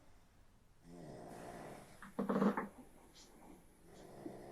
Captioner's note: Phil snoring